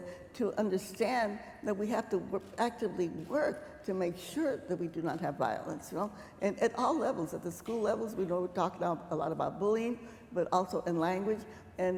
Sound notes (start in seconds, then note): none